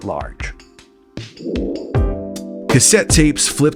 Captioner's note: air whooshing